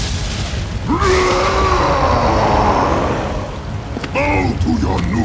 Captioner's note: roars